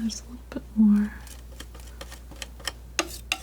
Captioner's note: scratching